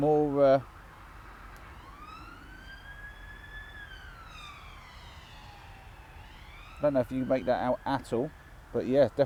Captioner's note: sirens again